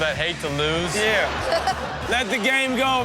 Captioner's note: audience laughs